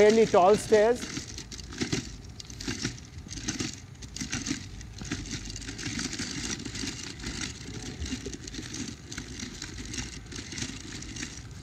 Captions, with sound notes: Okay, these are fairly tall stairs. (feet clatter)